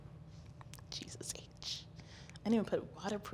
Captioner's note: whispers